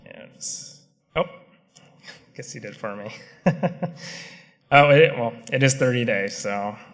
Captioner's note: laughter